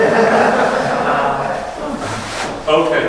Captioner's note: audience laughs